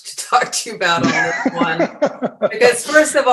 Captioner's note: laughs